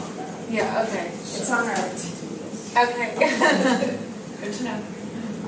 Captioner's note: laugh